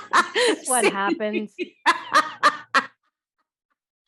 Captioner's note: both laugh